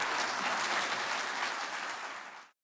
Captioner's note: applause